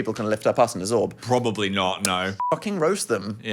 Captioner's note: beep